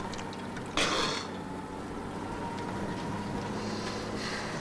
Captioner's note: Latrell spits